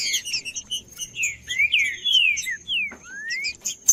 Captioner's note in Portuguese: trinca ferro cantando